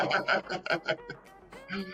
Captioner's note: laughing